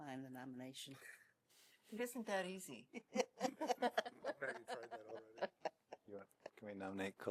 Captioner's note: laughter